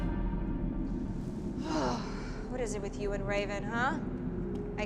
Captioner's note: grumbles